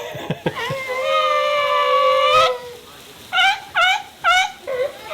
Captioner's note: seal bleating